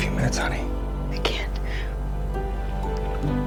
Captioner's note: voiceover